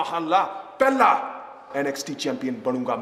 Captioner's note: speaking in foreign language